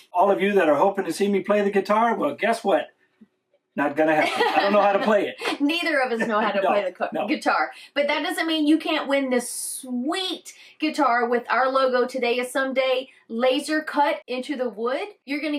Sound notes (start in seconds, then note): 4.1 laughing